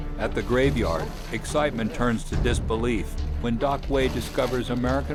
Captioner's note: voiceover